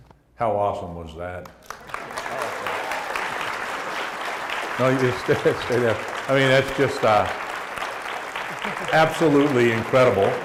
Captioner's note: applause